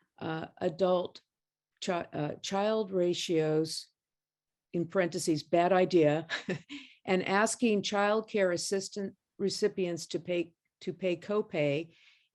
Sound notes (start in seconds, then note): 6.2 laughter